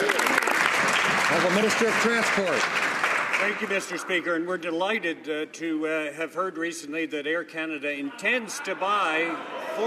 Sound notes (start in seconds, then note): 2.4 some Applause